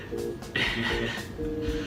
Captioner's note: giggle